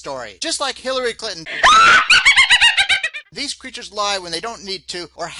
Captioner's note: sound of witch laughter